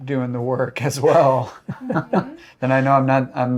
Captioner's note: laughing